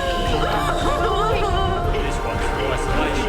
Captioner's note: crying; dramatic music